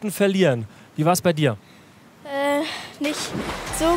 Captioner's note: Plätschern